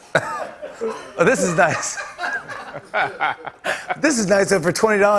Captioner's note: laughter